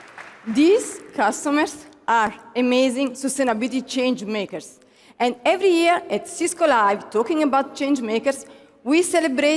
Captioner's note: applause